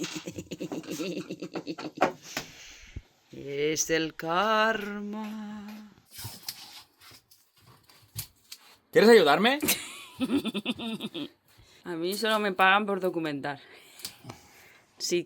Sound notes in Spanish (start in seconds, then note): 9.7 Más risas malditas